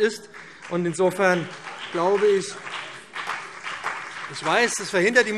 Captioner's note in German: Beifall BÜNDNIS 90/DIE GRÜNEN und CDU - Zurufe Freie Demokraten